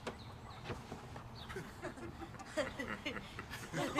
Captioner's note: bystanders Laugh